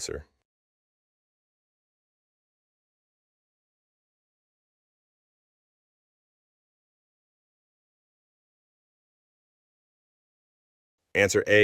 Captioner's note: no audio